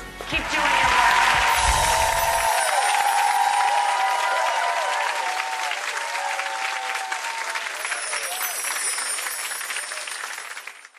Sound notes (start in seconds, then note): 1.2 applauding; 7.6 chiming